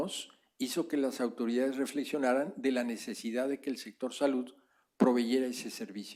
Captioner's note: spanish; spanish